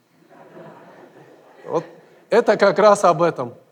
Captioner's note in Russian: смех в зале